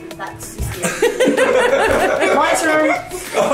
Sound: laughing

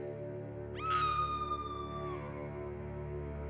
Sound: salith's screams

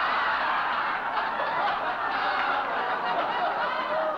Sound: laughter

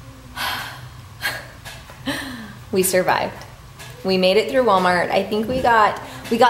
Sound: sighs

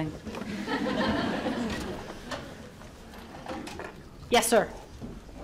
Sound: audience laughs

